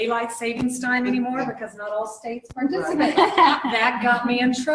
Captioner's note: laughter